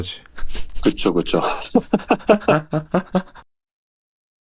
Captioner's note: laughter